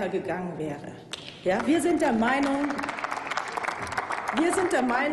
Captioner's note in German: Applaus